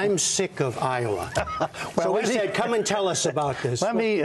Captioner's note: laughter